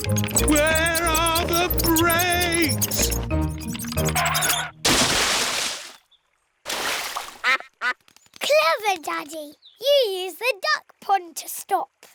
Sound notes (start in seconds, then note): 7.4 quacks